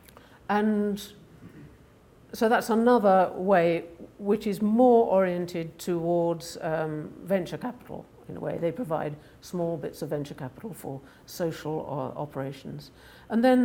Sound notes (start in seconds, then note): none